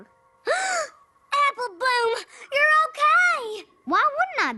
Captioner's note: gasps